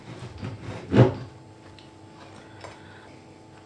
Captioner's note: sawing and hacking